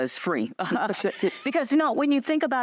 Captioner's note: laughter